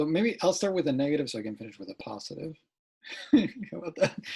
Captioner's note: laughs